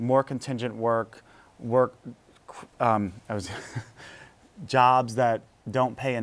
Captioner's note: laughs